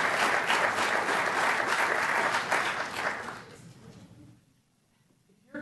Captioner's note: applause